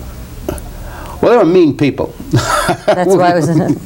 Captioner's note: laughs